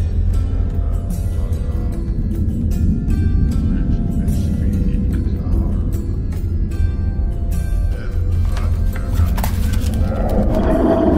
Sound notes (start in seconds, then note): 1.7 chanting in distance